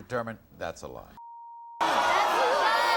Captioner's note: beep; audience groans